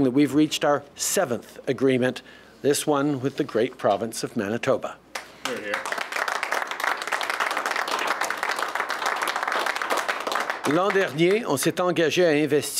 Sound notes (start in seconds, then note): 5.1 applause